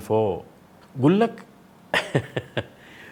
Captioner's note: chuckles